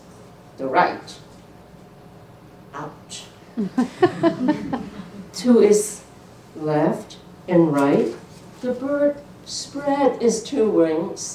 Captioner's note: laughter